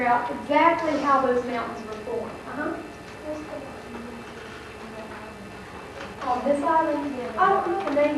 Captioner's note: student asks a question quietly